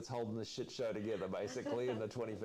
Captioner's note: laughter